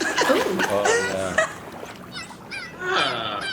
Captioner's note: laughter; chirping continues